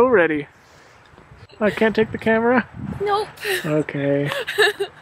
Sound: laughs

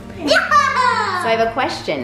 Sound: laughing

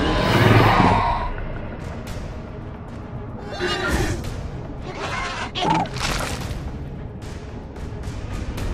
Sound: Gallimimus Sounds

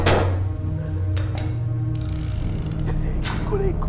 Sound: door knock; gun sound

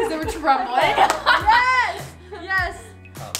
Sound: laughs

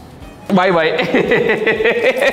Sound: laughs

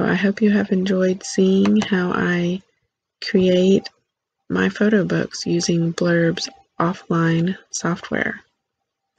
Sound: click

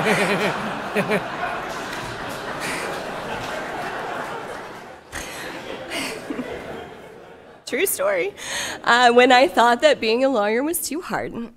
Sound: laughter

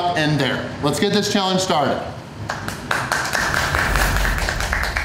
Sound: clapping

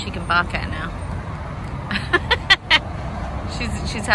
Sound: cackles

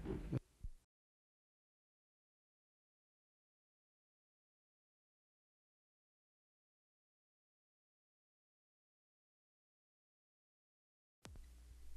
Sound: silent

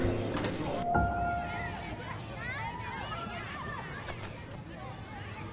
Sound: children shouting

